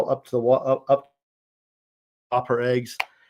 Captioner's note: audio cuts out